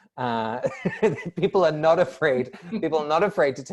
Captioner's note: laughter